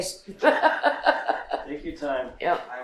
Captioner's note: laughing